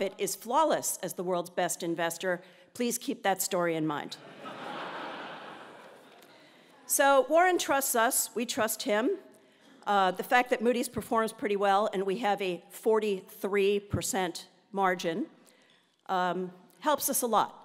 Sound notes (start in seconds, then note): 4.5 laugh